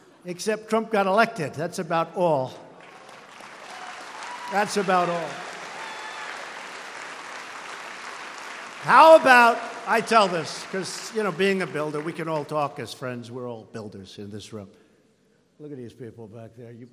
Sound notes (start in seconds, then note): 0.0 laughter; 2.5 applause